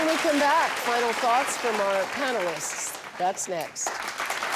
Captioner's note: audience applauds